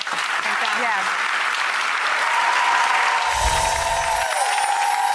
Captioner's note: audience applause